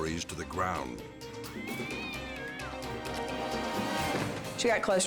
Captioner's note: cat meows